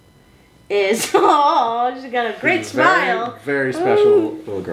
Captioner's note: laughs